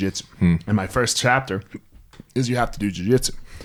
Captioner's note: hiccups